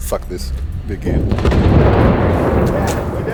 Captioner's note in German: Detonation